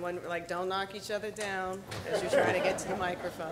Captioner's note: audience laughing